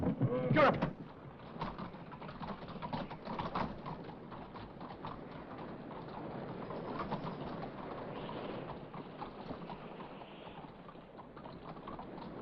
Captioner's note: loud thud; carriage rattles away; wind blowing